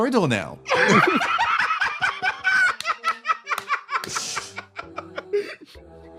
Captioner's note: laugh